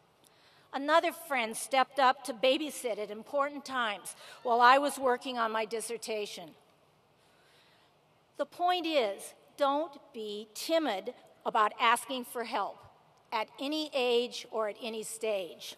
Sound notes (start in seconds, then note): none